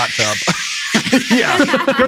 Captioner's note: crew laughing; mimics static hissing